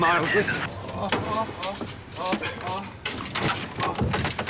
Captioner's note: bob groans